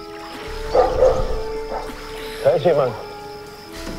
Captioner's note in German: Hundebellen